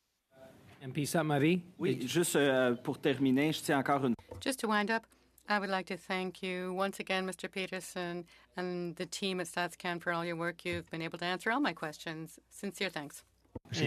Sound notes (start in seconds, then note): 9.8 speaking French